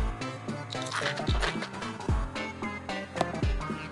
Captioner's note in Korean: 와작